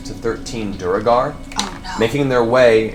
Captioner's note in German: flüstert